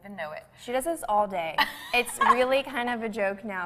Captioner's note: laughs